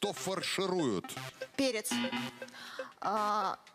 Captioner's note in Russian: пи-пи